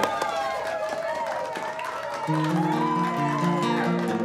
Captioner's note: audience cheering; gentle guitar music